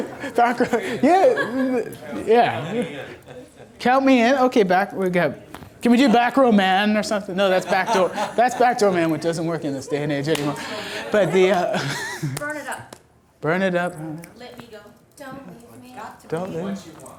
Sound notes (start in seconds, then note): 2.5 voiceover; 11.9 laughs; 12.7 voiceover; 14.7 voiceover